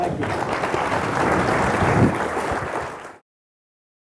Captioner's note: applause